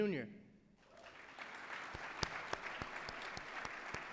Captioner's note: applause